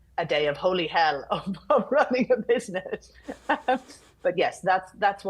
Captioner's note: laughing